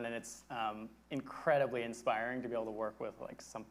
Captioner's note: none